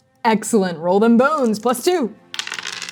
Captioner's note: dice rolling; shaking dice